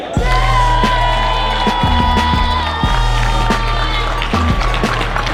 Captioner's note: crowd cheering